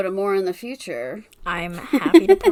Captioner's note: laughs